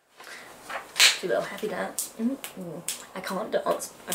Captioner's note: claps hands and clicks fingers